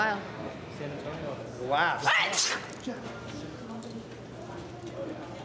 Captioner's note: Liv sneezing